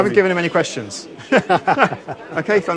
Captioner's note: both laughs